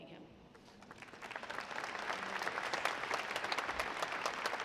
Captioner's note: audience applauding